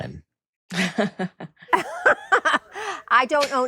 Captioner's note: chuckles; laughs